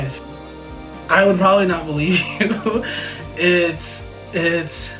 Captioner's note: laughs